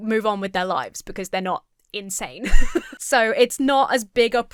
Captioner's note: laughs